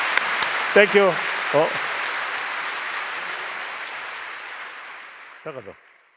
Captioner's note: applause; laughs; applause